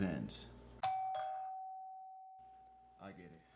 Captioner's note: doorbell rings